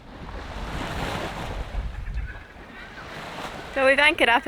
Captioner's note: waves splashing